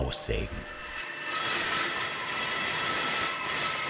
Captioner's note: whirring